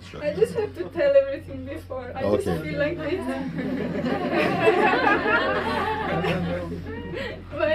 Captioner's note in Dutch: gelach